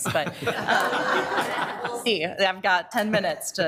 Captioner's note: all laughing